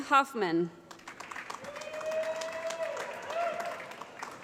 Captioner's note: applause